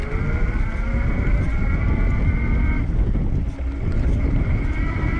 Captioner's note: electric motor whirs